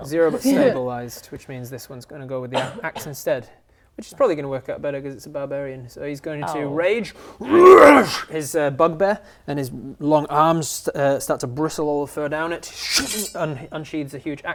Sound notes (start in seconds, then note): 7.5 roar; 12.6 shing